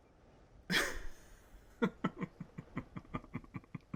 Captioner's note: laughs